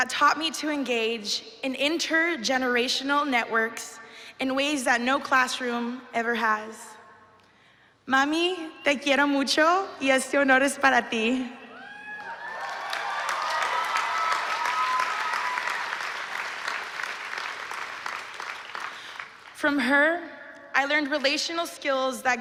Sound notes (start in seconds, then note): 8.1 speaking spanish